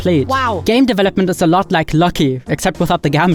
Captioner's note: automated Voice